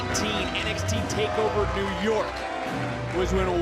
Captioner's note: applause